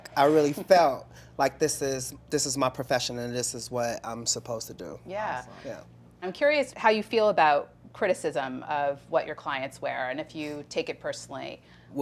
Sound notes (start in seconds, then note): none